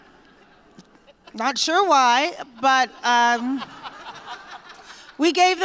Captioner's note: laughter